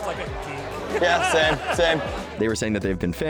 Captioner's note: laughing